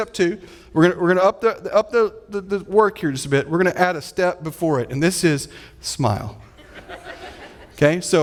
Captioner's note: audience laughing